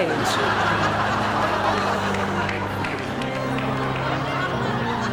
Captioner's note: audience laughs